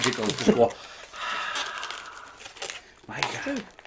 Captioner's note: exhaling